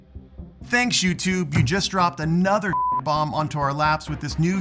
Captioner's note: beep sound